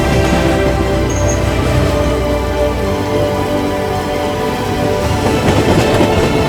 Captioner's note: slow electronic music; train rattles